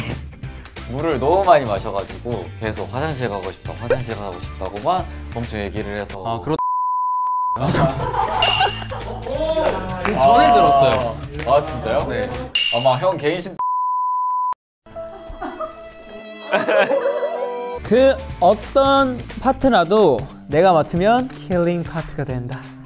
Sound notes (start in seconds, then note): 9.6 clapping machine